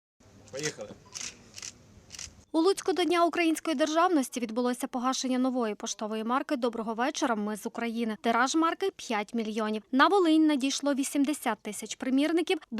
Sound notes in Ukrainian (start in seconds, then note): 0.4 Звук фотоапарата